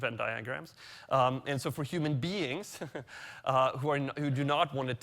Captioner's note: chuckles